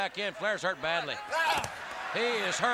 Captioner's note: body dropping